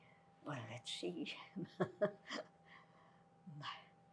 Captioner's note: laughing